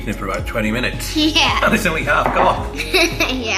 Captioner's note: laughing